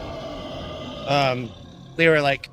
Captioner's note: Sasquatch growling